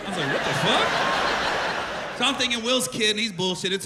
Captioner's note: laughter